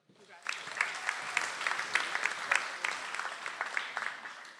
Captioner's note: audience applauds